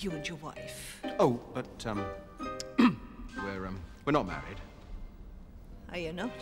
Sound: throat clearing

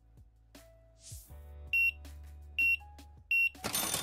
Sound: beeping

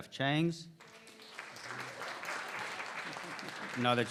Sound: applause

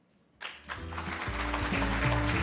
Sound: audience applauding; upbeat jazz music

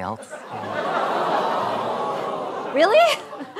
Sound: crowd groans

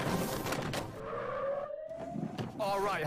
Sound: tires squealing

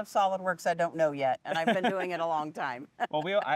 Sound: laughing

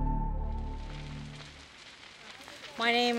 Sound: crackling fire

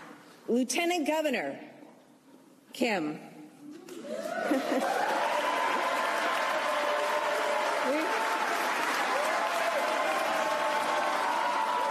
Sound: applause

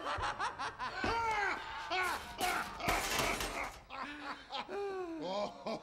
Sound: Heavy laughs loudly

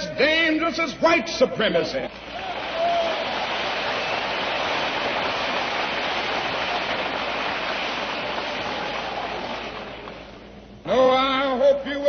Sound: applause

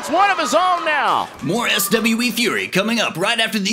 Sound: voiceover

